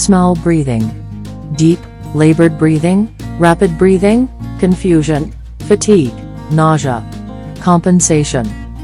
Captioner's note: deep, labored breathing